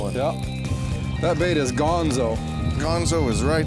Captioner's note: voiceover